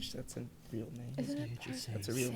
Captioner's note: group whispering